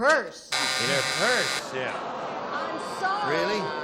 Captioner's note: buzzer